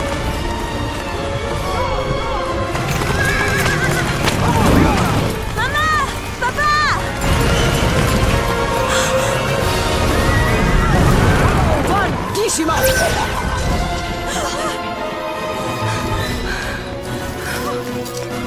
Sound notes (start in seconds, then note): 3.2 horses whinnying, galloping; 8.8 gasp; 14.2 gasp!; 15.3 sobbing, panting